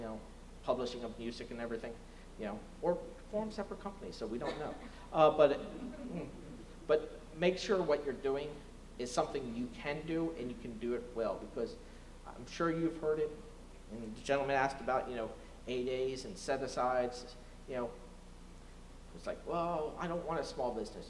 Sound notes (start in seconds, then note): 5.5 laughter